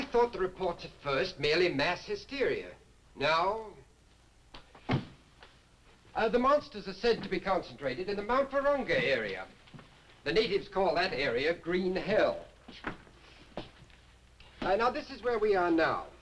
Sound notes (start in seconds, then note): none